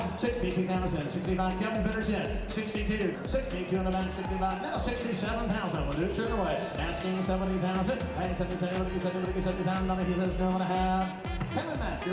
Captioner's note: auctioneer's chant